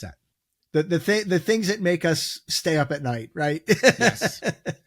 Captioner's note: laughs